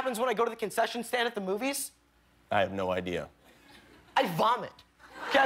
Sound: laughter

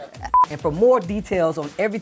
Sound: beep

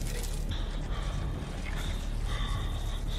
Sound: panic breathing

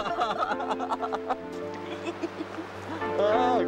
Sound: laughs

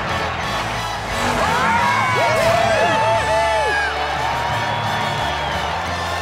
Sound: cheering

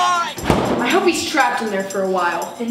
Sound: door slams

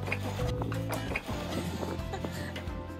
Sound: laughter

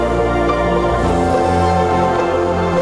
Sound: train whistle

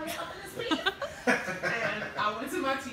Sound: laughing

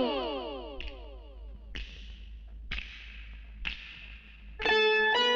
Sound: snaps finger

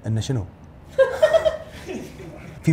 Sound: laughs

